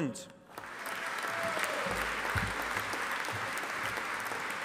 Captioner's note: audience applauding